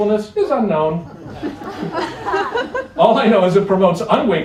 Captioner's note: laughter